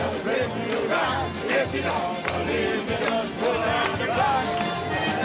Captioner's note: crowd cheering